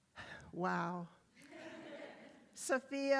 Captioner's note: attendees laughs